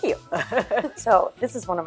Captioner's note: laughing